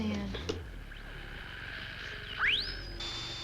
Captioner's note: radio whizzes and crackles